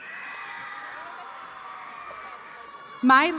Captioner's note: attendees cheering